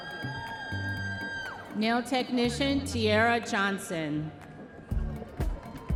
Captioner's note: audience members cheering